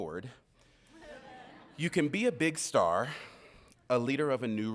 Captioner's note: audience laughing